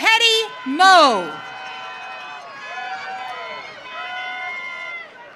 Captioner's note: audience cheering